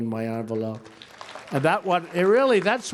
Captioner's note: applause